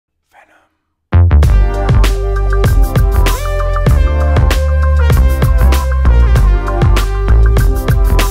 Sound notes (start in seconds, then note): 0.6 whispered; 1.1 funky Music